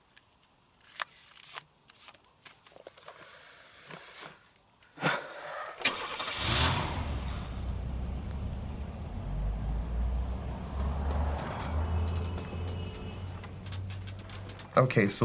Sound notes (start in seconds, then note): 5.2 Oliver sighing; 5.8 car engine firing; 9.9 traffic rumbling; 12.0 horn sounding